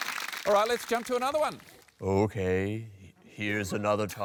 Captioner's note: low, slow voice